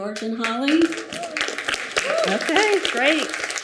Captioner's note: audience applauding